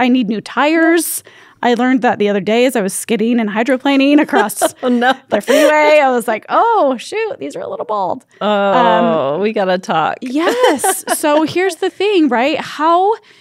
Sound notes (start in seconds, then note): 4.2 laughs